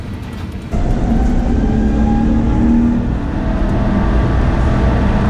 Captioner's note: aeroplane engine